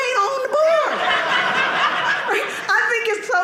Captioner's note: audience laughing